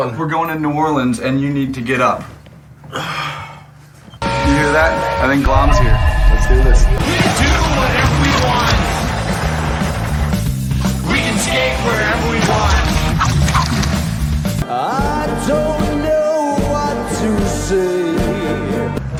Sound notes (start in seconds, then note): 4.2 honk